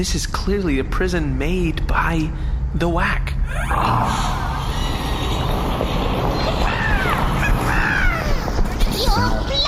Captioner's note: whispering; the door flies open; screeching